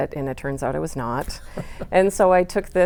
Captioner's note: laughing